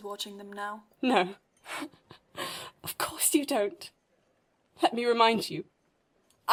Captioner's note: Lily laughs coldly